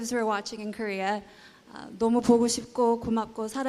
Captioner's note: speaking korean